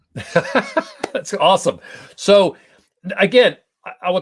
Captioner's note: laughter